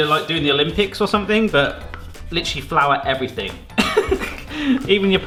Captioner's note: laughs